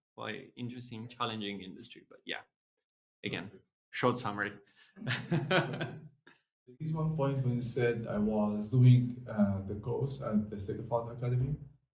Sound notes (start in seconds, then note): 5.0 laugh